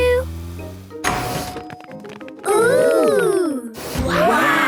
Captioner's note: door dings open